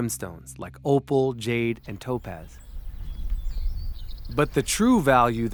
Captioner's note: birds chirping